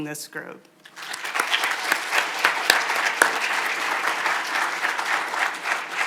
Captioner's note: audience applauding